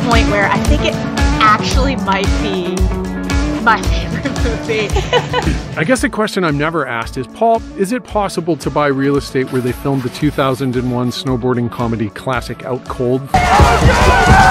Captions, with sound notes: It's at the point where I think it might actually be my favourite movie (laughter) I guess a question I'm never asked is: Paul, is it possible to buy real estate where they filmed the 2001 snowboarding comedy classic 'Out Cold' ?